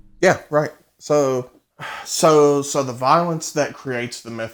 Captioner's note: sighs